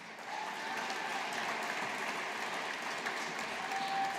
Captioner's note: audience applauding